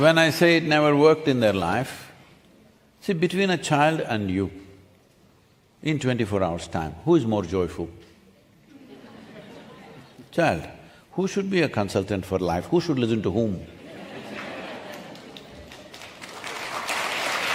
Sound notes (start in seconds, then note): 8.6 few laugh; 13.8 laughter/Applause